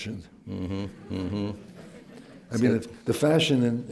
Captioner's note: laughter